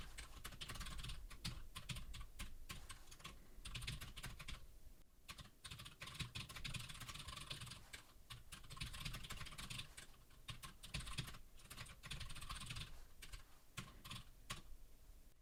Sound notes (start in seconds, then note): 5.2 typing sounds